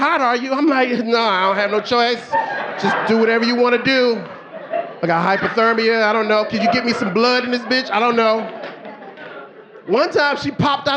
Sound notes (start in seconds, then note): 3.4 audience laughing